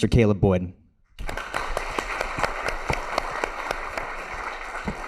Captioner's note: audience applauds